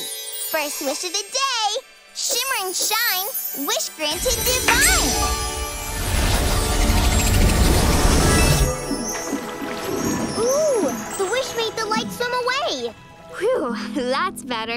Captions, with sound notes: First wish of the day. Shimmer and Shine, wish granted divine. [whooshing] Ooh, the wish made the light swim away. Whew, that's better.